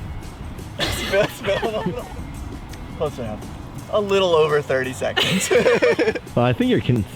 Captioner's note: laughs